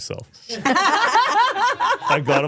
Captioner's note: both laughing